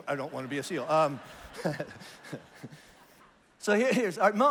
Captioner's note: congregation laughs